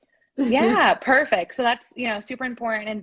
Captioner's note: laughter